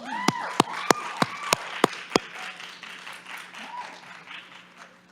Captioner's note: audience applauds and cheers